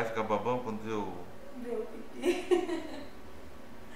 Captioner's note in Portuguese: risos